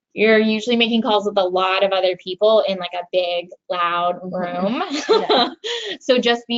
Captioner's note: chuckles